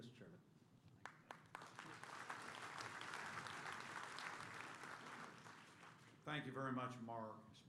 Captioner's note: applause